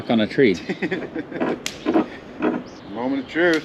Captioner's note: laughing